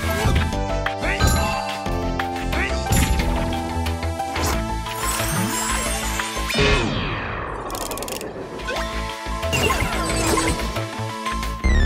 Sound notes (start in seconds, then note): none